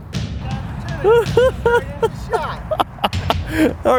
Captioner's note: laughs